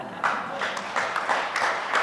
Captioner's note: audience laughter and clapping